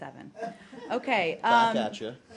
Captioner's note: laughter